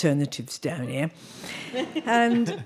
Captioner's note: audience laughing